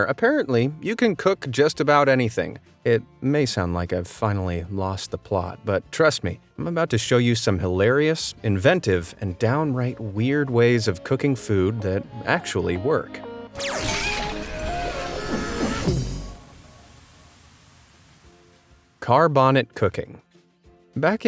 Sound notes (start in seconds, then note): 13.5 graphics whoosh; 14.0 light, upbeat music